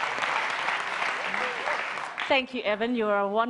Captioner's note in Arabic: تصفيق